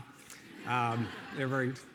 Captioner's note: audience laughing